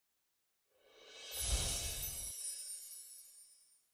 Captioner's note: gently chiming bells